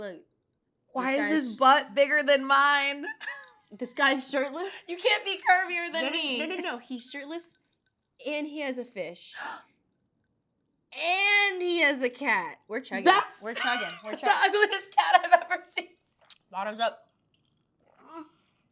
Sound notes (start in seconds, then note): 3.5 laughs